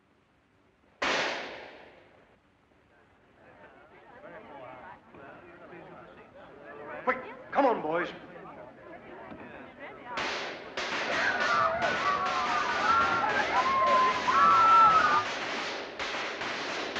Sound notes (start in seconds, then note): 1.0 gunshot; 10.1 gunfire; 11.0 crowd screaming; 15.4 gunfire